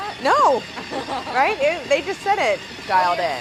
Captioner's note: laughing